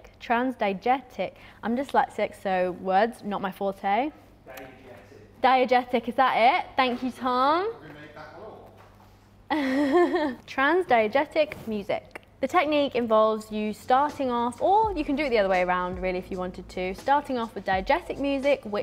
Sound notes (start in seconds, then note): 9.5 chuckling